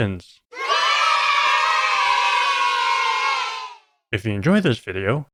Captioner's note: kids cheering